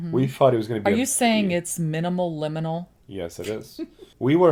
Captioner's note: laughs